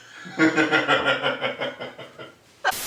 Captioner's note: laughing